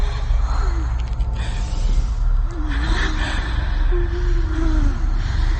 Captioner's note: Juliette moaning